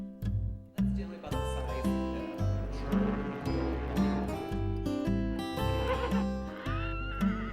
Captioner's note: guitar music; riverboat horn blows; horse neighs